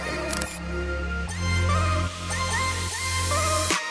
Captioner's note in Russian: Звук камеры